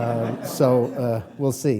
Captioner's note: laughing